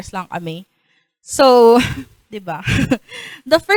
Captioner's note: chuckles